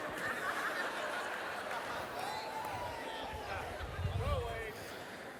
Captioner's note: laughter